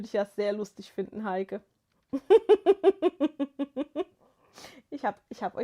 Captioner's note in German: gelächter